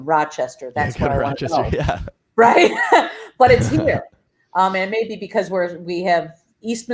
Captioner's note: laugh